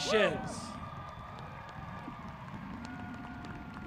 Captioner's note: applauding